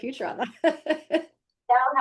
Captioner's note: laughing